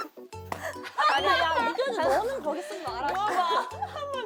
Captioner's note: laughing